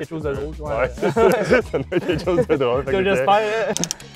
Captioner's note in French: rires